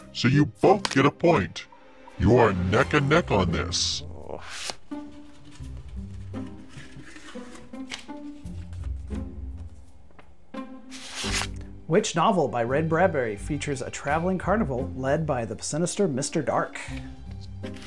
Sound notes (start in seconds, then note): 0.7 cards smacking; 3.8 groaning; 4.4 paper whooshing; 4.4 paper rustling; 10.9 paper whooshing